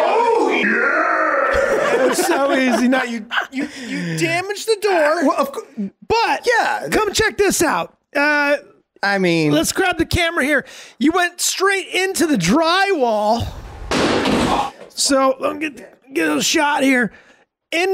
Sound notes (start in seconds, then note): 1.5 everyone laughing; 13.4 door crashing